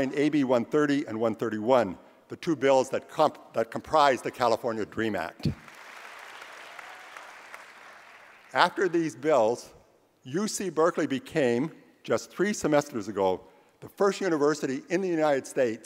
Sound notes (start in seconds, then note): 5.5 applause